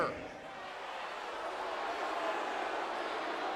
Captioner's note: audience booing